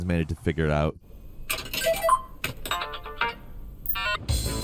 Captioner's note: machine beeping; upbeat ambient music